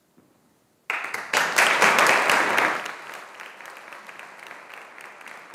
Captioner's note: audience applauding